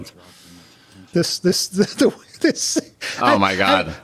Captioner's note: Gilligan laughing